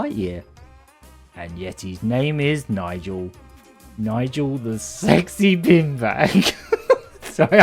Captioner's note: bursts out laughing